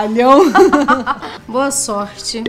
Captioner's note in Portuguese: risadas